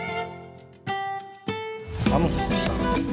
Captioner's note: spanish